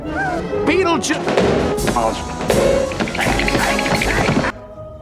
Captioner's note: stomps feet